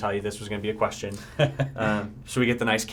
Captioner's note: laughter